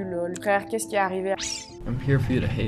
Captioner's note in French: bip